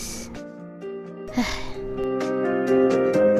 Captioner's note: sighs